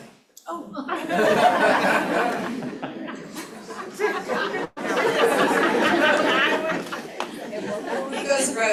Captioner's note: laughter